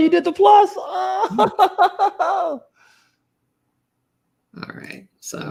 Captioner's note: laughs